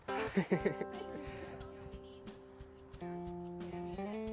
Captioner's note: laughing